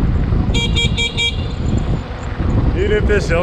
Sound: horn beeps

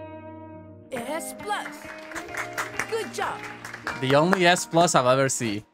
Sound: claps

